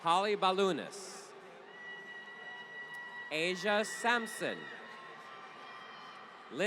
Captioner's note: applause